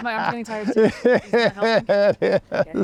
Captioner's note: laughing